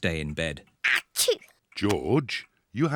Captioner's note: sneezes